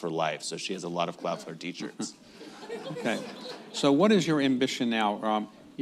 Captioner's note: laughter